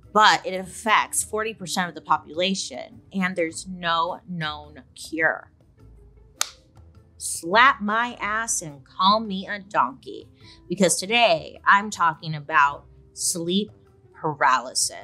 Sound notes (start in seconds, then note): 6.4 claps